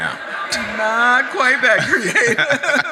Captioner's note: audience laughs